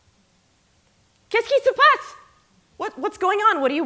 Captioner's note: non-english speech